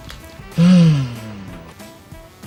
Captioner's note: sigh